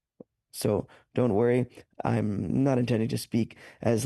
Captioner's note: speaking French